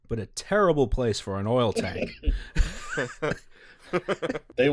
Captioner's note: laughter